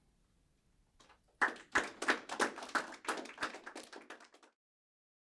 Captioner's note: applause